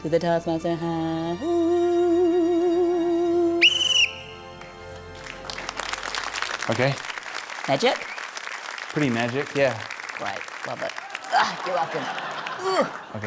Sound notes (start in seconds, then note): 3.6 blows whistle; 5.5 applause; 12.6 grunts